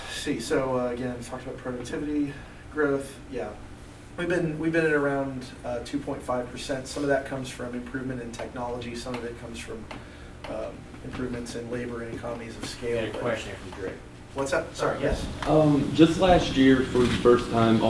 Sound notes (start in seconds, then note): 13.2 voiceover